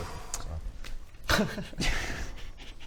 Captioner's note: cracking up